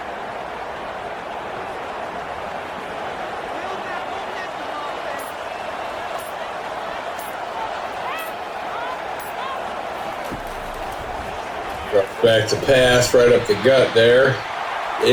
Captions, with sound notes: [Crowd Noises] Back to pass right up the gut there.